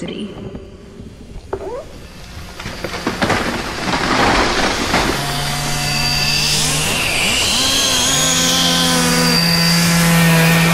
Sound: sound of chainsaws and trees falling

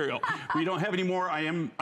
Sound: laughter

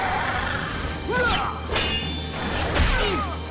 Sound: grunting

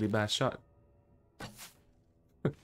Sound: laughs

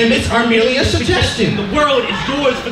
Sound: crowd laughing

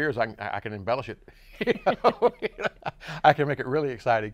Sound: laughs

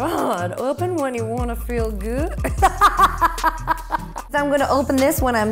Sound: laughs

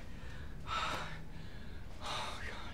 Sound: sighs

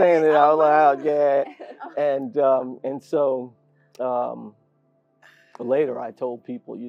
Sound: laugh

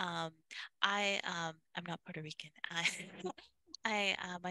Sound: laughs

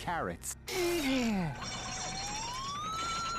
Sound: grunting

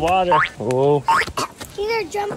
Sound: spring sounds

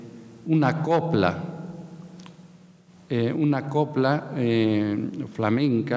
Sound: speaking in a foreign language

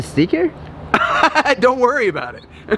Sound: laughs

